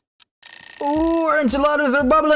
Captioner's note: alarm clock dings